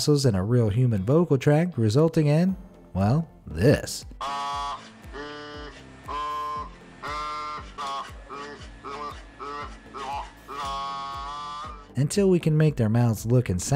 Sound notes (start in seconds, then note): 4.6 robot mumbling